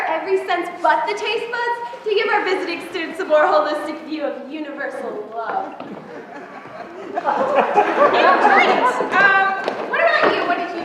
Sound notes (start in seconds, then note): 5.9 laughter